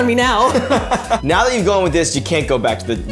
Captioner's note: laughing